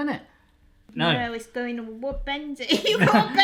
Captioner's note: laughing